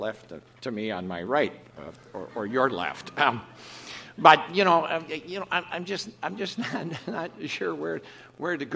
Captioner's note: laughs